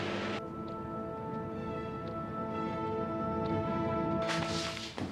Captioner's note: loud roar of engine; tick-tick of wiper blades